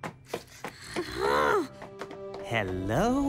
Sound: groaning

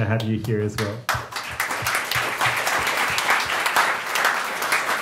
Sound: audience clapping

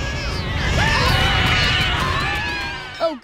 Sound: screaming

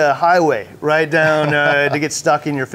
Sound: chuckles

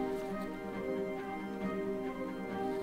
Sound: none

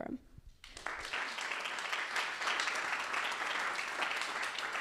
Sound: applause

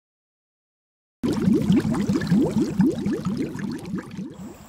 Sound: water gurgles

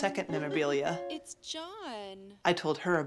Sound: laughs

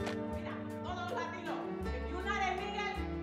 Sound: speaking Spanish

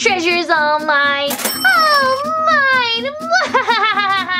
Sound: treasure chiming; Romeo laughing

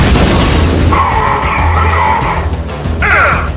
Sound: speaks Imagined language

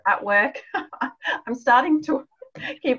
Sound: laughs

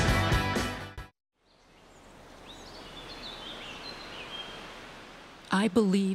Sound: birds chirping

